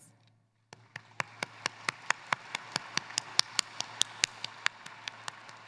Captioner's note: applause